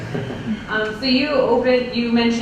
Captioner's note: laughs